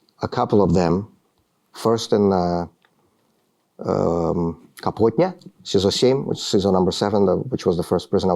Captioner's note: speaking russian